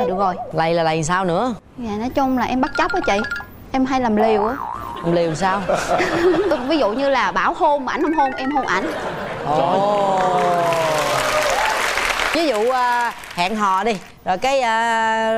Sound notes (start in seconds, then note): 8.7 laughter; 9.8 applause